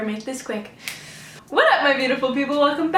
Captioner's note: awkward snap